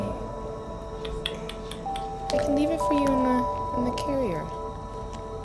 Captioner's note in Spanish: Clics de lengua